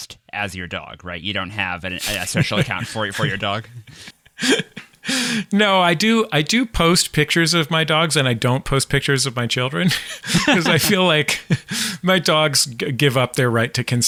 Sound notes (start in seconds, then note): 4.0 laughs